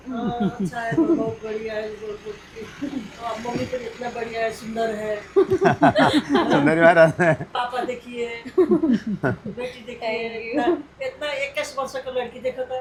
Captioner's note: speaks in Hindi